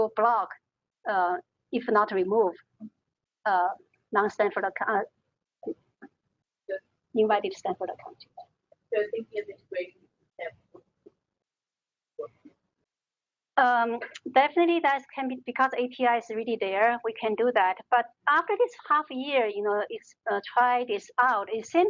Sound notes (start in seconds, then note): 9.3 talking